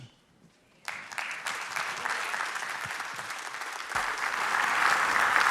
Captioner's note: congregation applauding